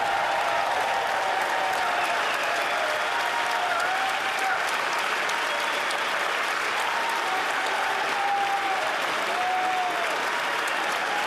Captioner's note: cheers & Applause